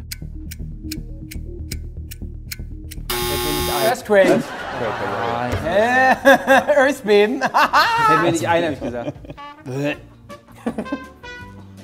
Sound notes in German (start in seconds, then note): 4.0 lacht; 4.1 Gelächter; 7.6 Würgen; 10.5 Freche Musik